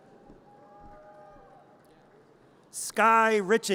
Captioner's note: audience cheers